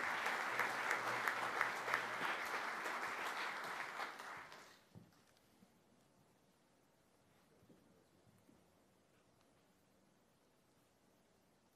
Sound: applause

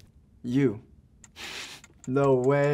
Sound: timer ticking

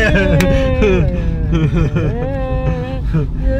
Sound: duo laughing

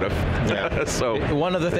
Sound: chuckles

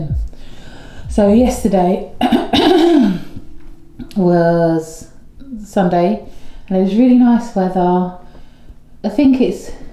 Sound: cough

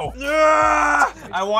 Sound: yelling

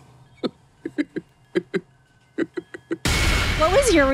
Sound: laughs; dramatic music

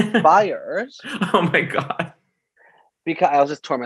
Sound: laughs

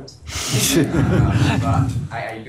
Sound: laughter

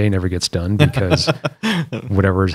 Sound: laughter

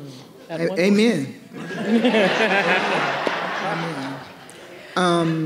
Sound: audience laughing

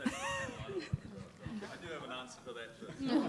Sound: laughs

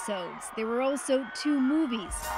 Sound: cheers and Applause

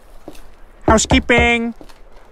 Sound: knocks

